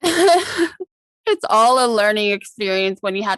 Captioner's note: laughs